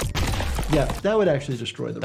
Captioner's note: bones crack